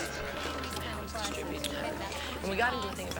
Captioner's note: muttering